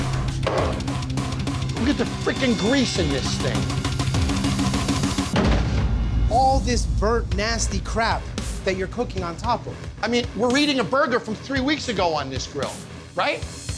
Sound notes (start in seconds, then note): none